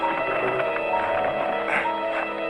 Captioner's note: bell